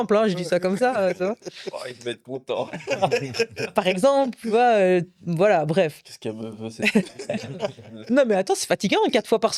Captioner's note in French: rires